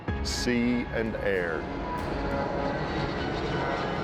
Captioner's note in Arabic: هدير الطائرة